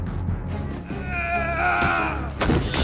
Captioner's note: scream